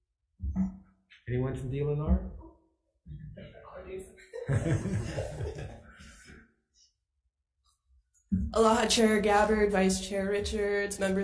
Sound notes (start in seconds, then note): 3.6 faintly speaking; 4.2 representatives and committee laugh